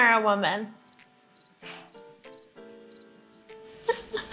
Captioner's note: crickets chirping